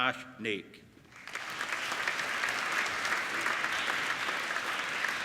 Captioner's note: applauding